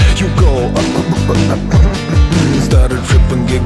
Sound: choke

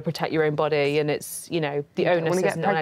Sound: none

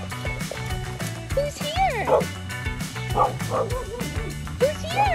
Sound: dog barks

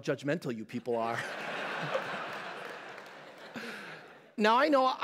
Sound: laughter

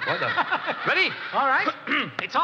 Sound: audience laughing; laughing

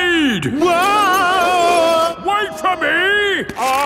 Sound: yelling

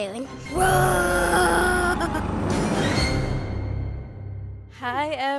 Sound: roars like a dinosaur

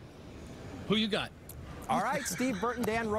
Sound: laughter

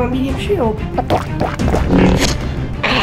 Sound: gulping; stab

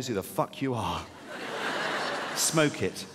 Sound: audience laughing

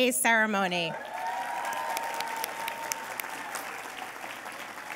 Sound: cheers and applause

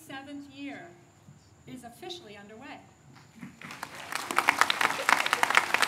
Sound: applause

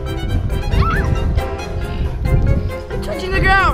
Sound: girl screams

